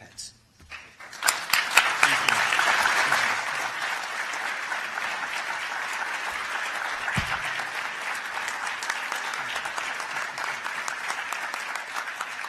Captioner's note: applause